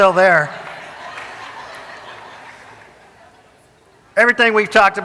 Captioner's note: audience laughing